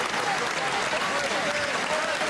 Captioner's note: applause